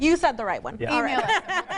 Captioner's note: laughs loudly